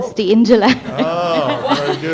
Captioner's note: laughter